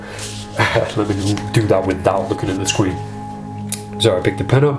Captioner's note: chuckles